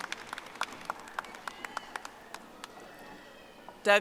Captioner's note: audience applauding